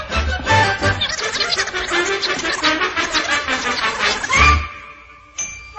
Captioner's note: speaking very fast and in high pitched tones